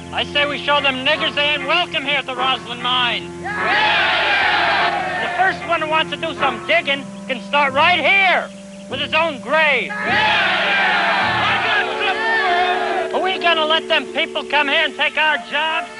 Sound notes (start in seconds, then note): 3.5 cheering; 9.9 cheering